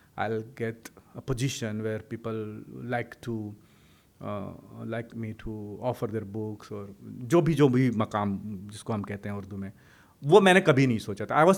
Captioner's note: hindi; hindi